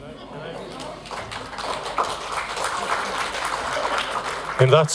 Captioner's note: applause